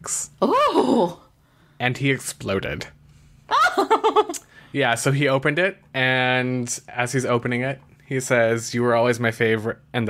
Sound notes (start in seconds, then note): 3.5 laughs